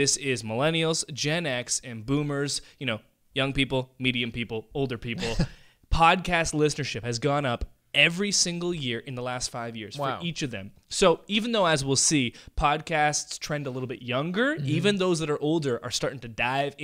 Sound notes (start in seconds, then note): 5.2 laughter